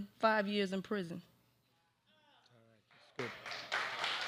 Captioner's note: applause